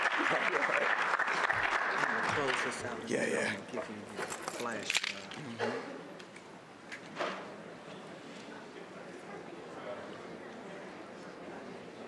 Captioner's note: applause